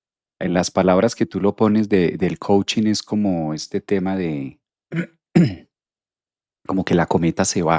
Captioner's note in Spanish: carraspeo